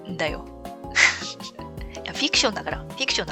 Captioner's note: laughs